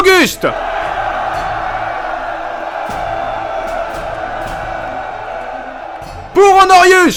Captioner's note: cheer